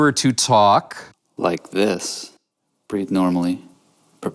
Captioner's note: voiceover